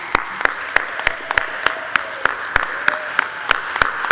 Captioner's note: audience applauding